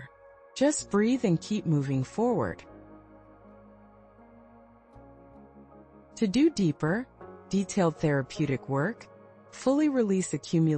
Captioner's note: pause